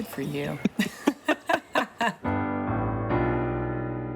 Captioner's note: both laugh